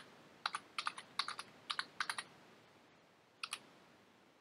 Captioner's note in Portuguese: typing